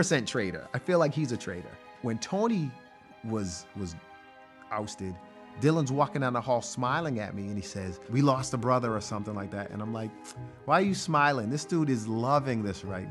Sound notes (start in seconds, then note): none